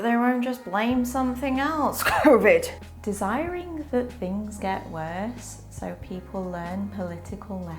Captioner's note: cough*covid*cough